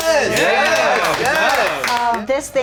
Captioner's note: movers clapping